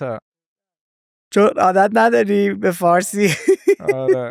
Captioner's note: laughs